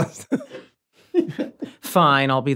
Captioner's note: Rob chuckles; Charlie chuckles